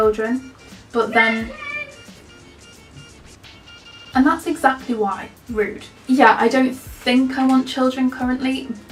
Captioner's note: children shout loudly to each other outside